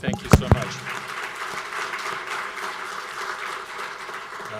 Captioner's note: applauding